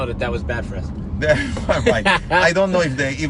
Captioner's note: laughs